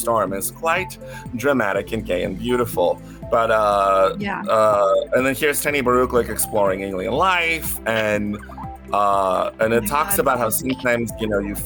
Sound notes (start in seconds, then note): 7.8 creature murmur sound